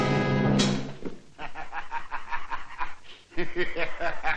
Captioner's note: laughing